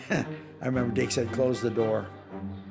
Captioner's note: chuckles